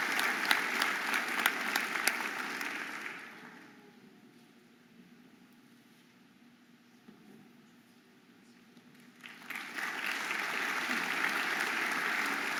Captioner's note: audience applauding and cheering